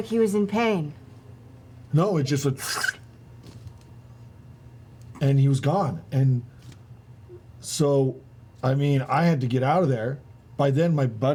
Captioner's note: sucking sound